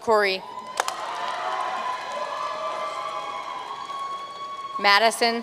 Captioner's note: audience cheering and applauding